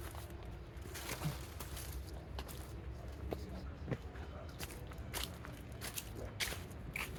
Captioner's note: footsteps on dried leaves